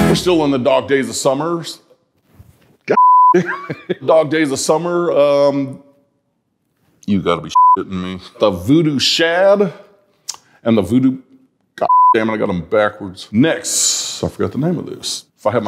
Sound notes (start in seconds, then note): 2.9 beep; 7.5 beep; 11.8 beep